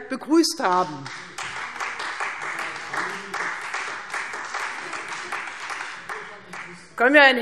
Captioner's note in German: Beifall Freie Demokraten